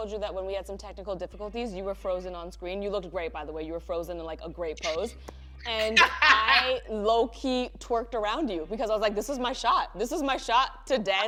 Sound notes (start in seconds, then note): 5.7 laughs